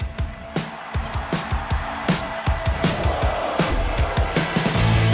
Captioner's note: crowd cheering